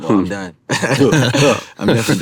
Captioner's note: everyone laughs